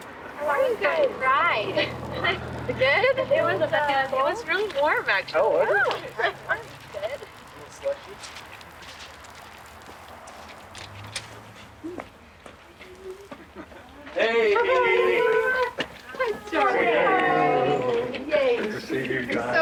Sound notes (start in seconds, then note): 6.0 group chattering; 16.1 overlapping chatter